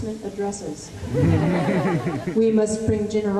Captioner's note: laughter